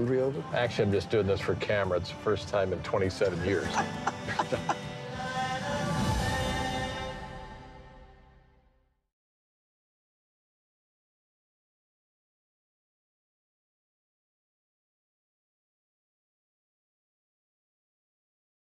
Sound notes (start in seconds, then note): 3.4 Marty laughs